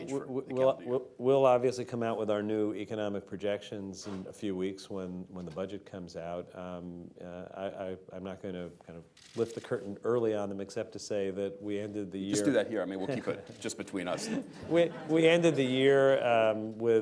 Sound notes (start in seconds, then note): 14.1 laughter